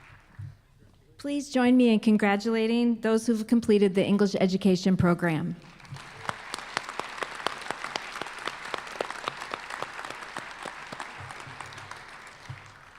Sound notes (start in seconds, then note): 5.6 applause